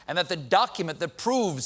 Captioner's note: none